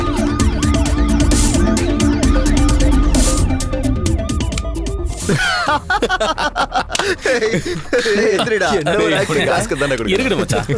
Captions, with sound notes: (Laughs) Get up man, get up. You acted very well.